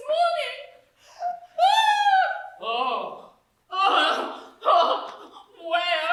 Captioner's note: katie shaw wails in anguish